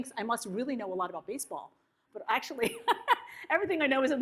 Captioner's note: laughs